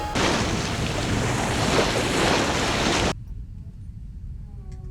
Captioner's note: water splashing